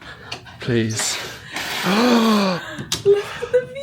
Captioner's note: gasps